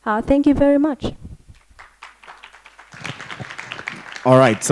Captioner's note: applause